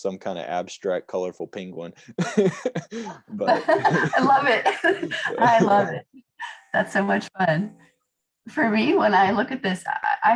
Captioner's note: laughter